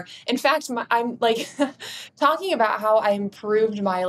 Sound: chuckles

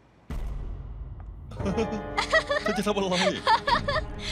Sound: giggling

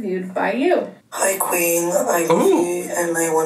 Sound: voice On Voice Memo

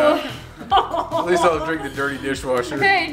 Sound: laughing

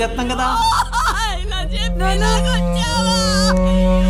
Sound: wailing

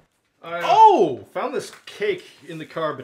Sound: exclaims

